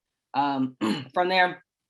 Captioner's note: clears throat